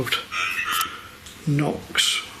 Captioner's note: voice On Radio